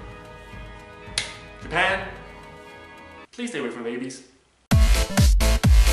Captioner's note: clap